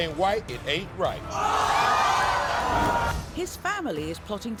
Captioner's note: crowd jeering